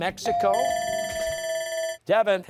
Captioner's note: bell ringing